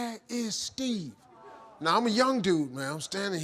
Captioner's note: audience murmuring